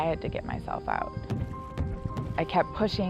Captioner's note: thumping